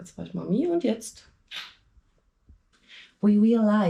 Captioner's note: speaking in foreign language